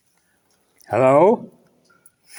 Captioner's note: echoes